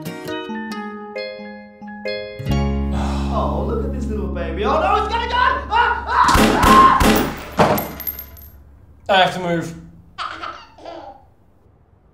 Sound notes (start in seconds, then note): 6.2 gunshots; 10.1 baby laughs